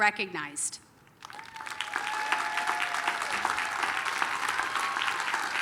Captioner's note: applause, cheering